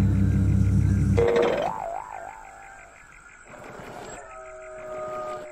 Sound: a bouncy sproing

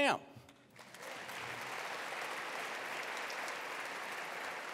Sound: attendees applauding

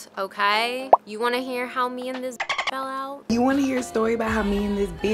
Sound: dolphin chirp

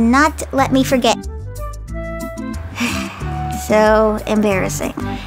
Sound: exhales sharply

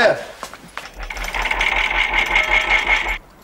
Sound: whirring and chiming

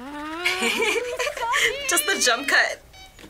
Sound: laughs

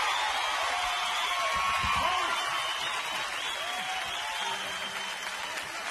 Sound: audience cheering

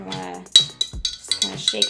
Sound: upbeat music; clanking

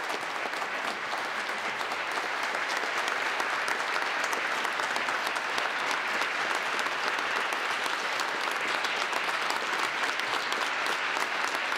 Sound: applause

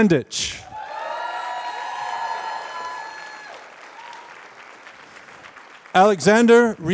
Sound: applause

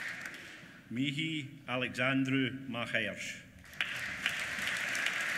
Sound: applause

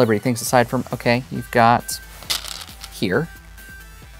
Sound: stones rattling

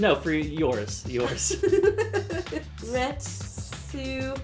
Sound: laughter

